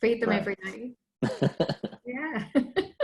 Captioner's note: laughs